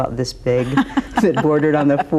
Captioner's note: laughs